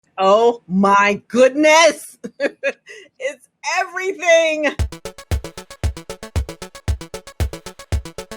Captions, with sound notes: - Oh my goodness. (laughs) It's everything. (light upbeat music)